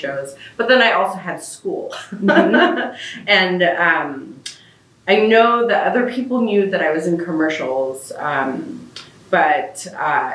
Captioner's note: laughs